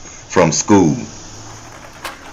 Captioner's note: cans dropping